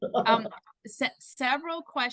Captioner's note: laughs